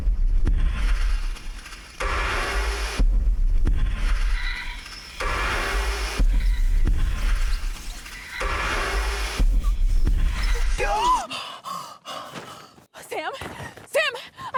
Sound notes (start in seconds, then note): 10.7 screams